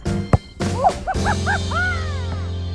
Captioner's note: thud